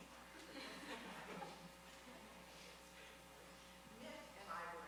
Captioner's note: audience laughing